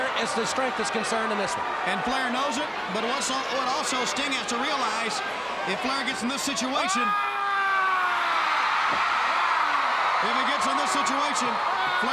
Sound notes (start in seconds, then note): 6.8 Ric yelling; 7.3 crowd cheering